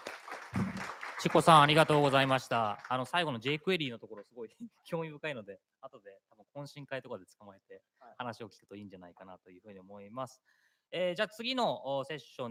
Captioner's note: applause; speaking japanese